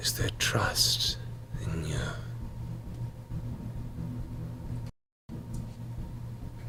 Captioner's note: none